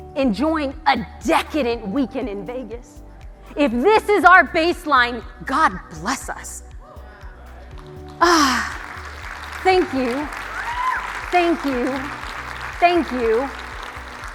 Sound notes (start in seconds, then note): 7.0 audience cheering